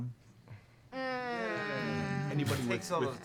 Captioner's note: groans